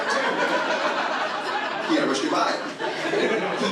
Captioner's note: audience laughs